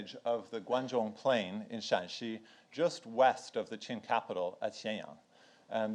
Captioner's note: speaks in foreign language